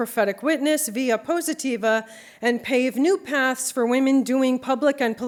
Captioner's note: non-english speech